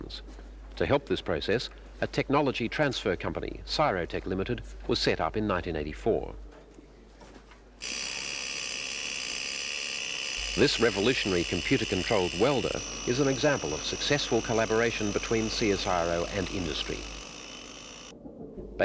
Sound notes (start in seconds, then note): 7.8 sound of welding